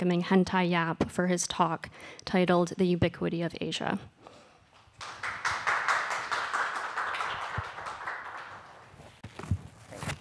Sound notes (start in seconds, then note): 4.8 applause